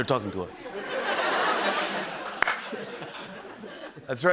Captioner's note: laughter